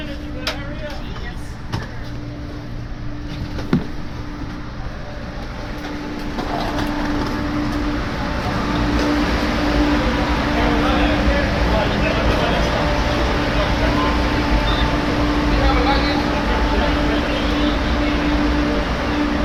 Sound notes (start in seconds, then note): 6.4 Acela Express humming electronically